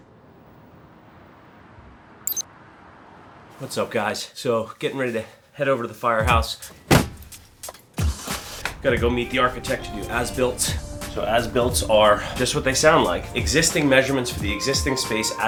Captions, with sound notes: What's up guys? So getting ready to head over to the firehouse. (upbeat music) (car door slams) (car engine starts) Gotta go meet the architect of AS-Builts. So AS-Builts are... This is what they sound like; Existing measurements for the existing space